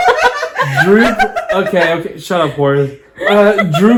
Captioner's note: laughs